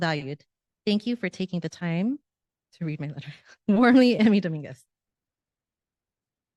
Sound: giggle

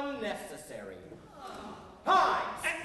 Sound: crowd

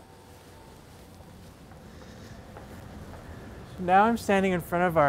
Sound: walking sound

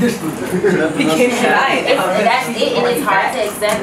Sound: attendees laugh

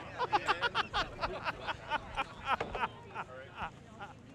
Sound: worker laughing

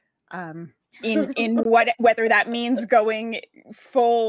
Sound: laughs

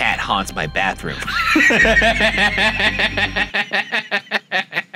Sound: laughing

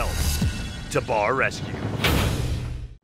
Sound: slams

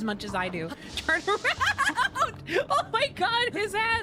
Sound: laughter

